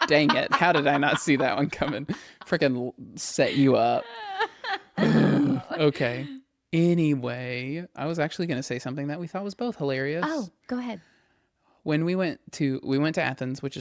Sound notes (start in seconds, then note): 3.4 laughs